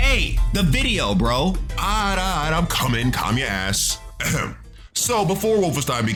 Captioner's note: clears throat